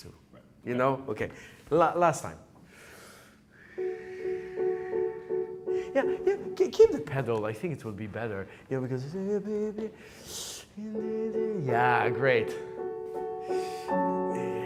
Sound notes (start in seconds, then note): 3.7 piano music; 10.4 hums; 10.9 piano starts